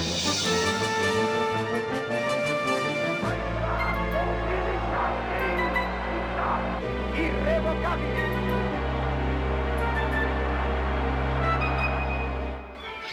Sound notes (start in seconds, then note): 2.8 speaking German; 5.9 speaking Italian